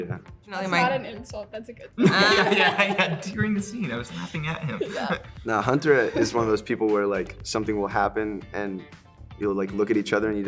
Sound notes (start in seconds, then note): 2.0 laughing